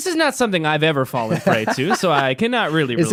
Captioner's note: laughing